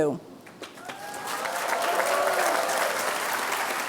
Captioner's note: applause